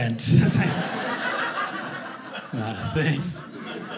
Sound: audience laughing

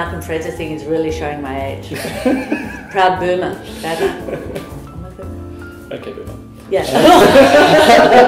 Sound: laughter

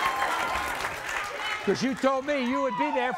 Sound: audience applauds

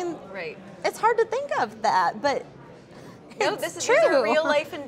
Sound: laughs

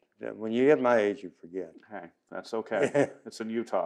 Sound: laughs

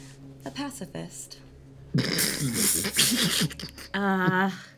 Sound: snorting

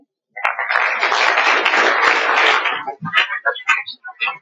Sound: applause

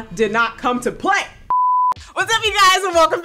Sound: electronic beeping

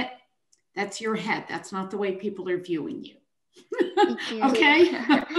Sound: chuckles

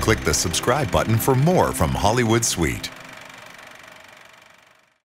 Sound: film reel clicking

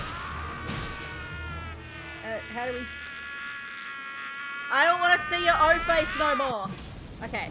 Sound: yells in pain

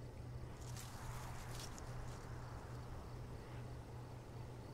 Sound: rustling

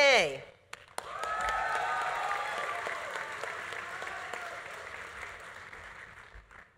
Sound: audience applauding; audience cheering

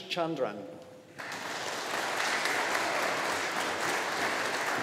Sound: audience applauding

